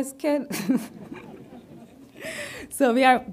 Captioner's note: audience laughs